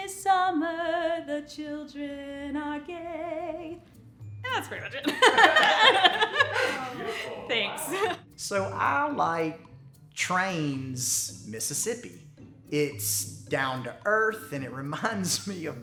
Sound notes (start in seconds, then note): 5.0 laughs